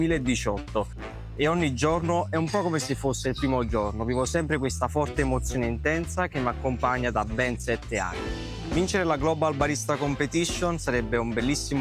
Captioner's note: speaking another language